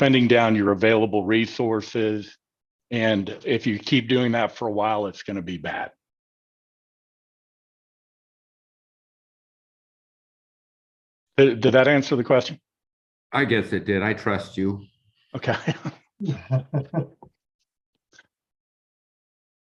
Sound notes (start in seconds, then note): 16.2 laughs